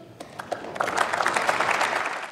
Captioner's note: Applause from CDU/CSU, members of SPD and the Greens